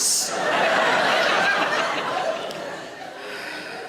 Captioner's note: audience laughing